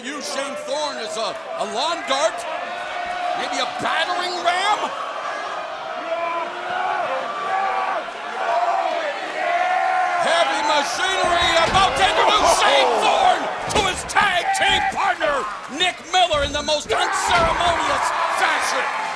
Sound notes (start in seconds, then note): 8.7 cheers and applause